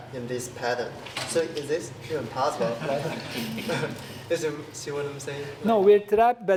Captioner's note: laugh